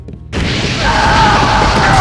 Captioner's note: death scream